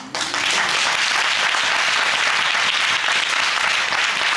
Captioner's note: audience applauding